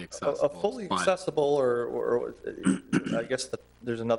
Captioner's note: stammering